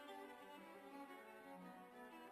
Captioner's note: none